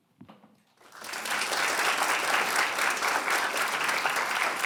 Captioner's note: audience applauding